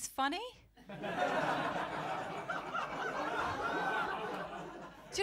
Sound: laughter

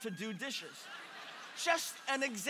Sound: congregation laughing

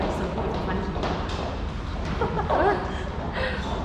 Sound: both laugh out loud

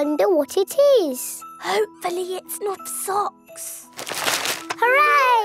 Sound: whispering

